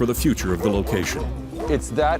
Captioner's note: dog barking